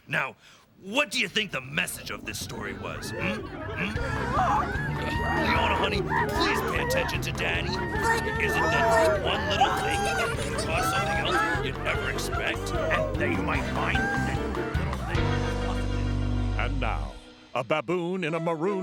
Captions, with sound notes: Now, what do you think the message of this story was, hmm? ( yelling ) Leona, honey, please pay attention to Daddy. ( yelling grows louder ) ( continuing lecture as yells and screams continue ) And now, a baboon in a maroon balloon